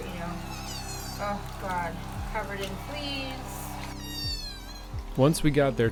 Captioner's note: kitten squealing